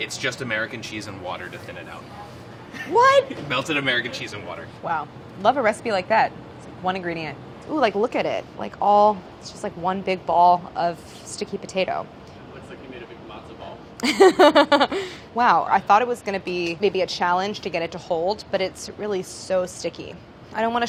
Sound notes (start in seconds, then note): 14.0 laughs